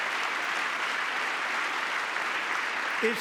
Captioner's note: applause